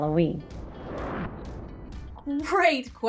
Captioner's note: soft upbeat music; air whooshes